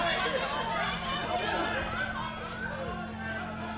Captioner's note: mob shouting again; screams